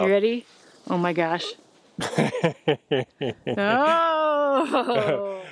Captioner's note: laughs